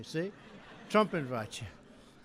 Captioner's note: laughter